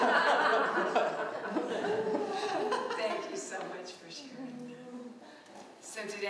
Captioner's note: laughter